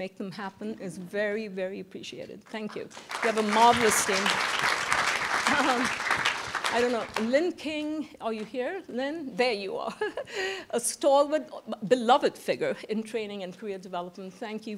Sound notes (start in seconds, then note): 5.3 applause